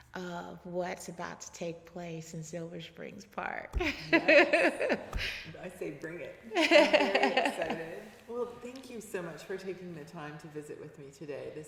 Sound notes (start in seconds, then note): 3.9 laughing